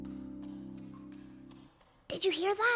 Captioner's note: clomping